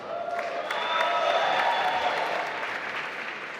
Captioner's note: applause